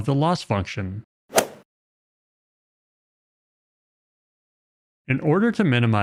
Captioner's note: golf ball hit sound effect